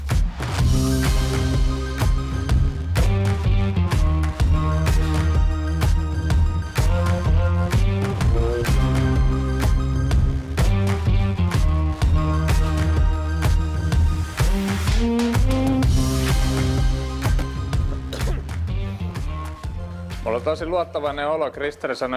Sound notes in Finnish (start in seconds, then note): 0.9 Aplodeja